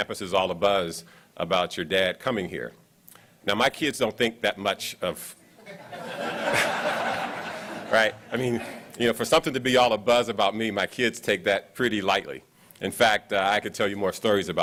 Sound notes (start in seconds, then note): 5.6 laughs